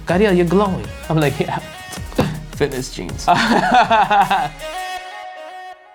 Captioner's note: laughs